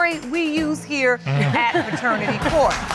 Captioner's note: all laughing